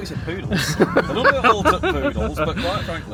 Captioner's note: laughs